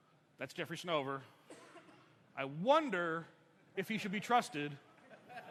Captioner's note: laughter